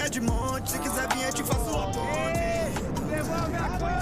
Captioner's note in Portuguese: gritando